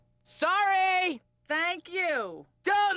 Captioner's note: shouts